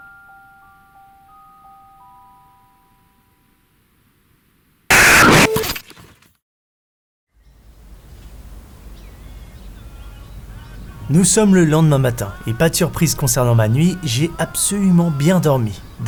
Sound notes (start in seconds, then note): 0.0 ♫ Mysterious music ♫; 8.8 bird sounds